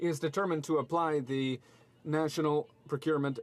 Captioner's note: speaking French